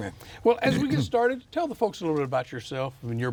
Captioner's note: clears throat